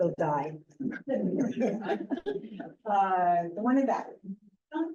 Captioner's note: laughter